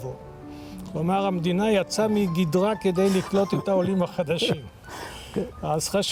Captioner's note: sarcastic